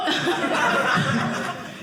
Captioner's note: audience laughing